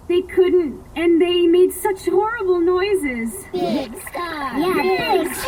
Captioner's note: chanting and splashing